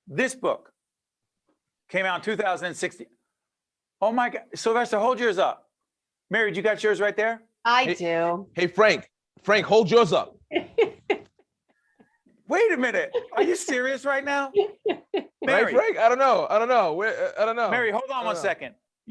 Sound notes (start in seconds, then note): 13.0 laughing